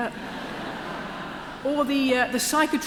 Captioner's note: laughter